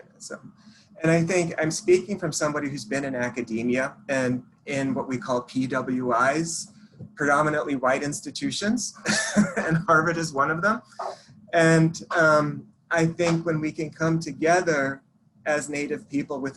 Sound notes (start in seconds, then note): 9.0 chuckles